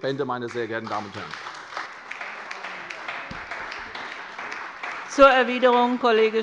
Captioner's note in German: Beifall bei der CDU - Zurufe von der SPD